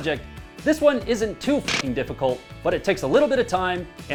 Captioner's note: audio distortion